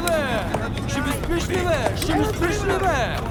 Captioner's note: shouting